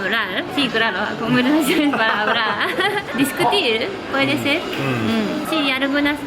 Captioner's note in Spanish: Risas